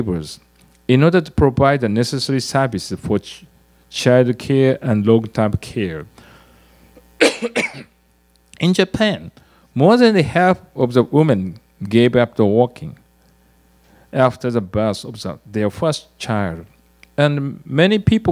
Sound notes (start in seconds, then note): 7.2 cough